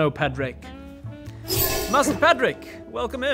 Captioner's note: whoosh